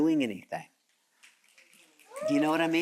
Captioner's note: audience cheering